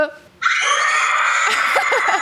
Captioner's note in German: Schreien